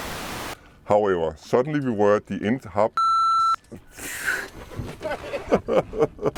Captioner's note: beep; laughter